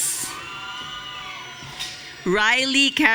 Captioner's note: audience cheering